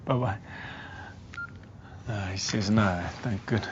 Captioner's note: beeps